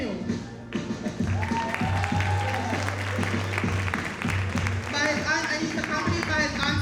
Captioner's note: audience cheering and applauding